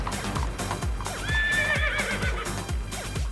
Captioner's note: horse neighs